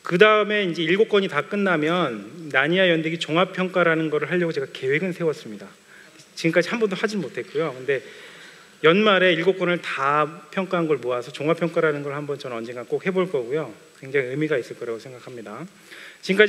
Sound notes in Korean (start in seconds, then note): none